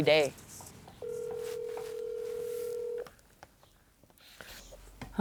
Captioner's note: phone dialing out